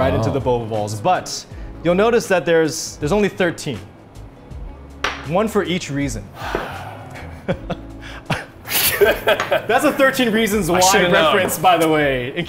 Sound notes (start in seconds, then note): 6.3 sigh; 8.6 laughter